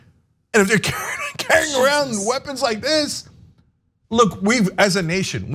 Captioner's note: laugh